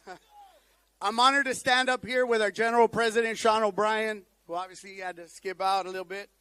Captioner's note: laughter